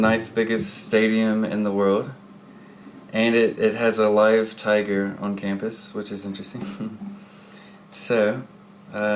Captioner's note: chuckles